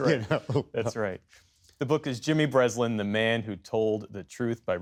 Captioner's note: laughter